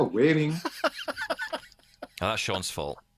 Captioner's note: laughs